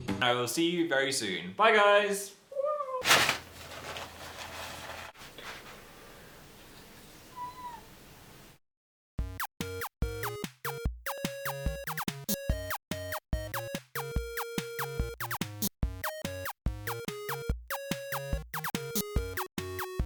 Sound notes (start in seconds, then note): 3.0 napkin wrinkling; 7.2 cat meows; 9.2 bouncy music